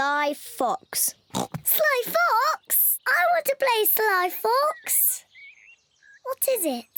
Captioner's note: oinks